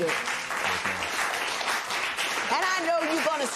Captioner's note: applause